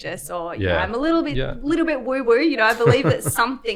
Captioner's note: laughs